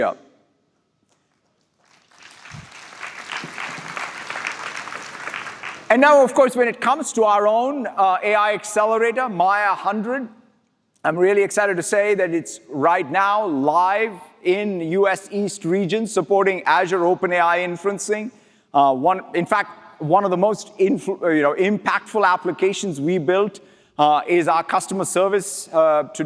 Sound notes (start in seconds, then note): 4.1 applause